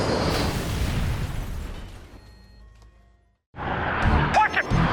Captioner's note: aircraft exploding